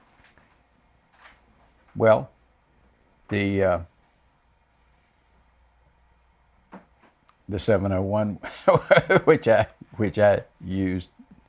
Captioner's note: laughs